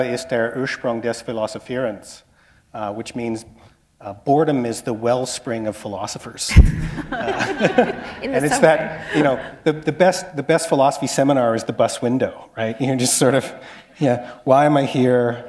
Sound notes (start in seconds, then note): 6.8 laughter